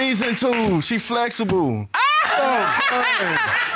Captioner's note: judge laughs